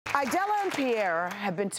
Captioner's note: audience applause